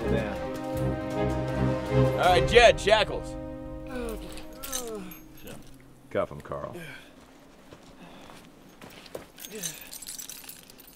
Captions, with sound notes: - Settle down. All right, Jed, shackles! (groaning) Cuff him, Carl.